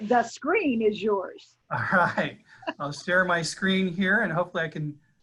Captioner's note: laughing